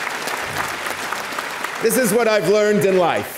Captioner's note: audience applauding